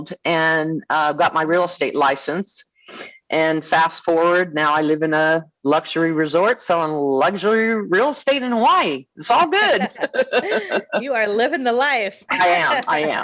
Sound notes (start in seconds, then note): 9.6 laughing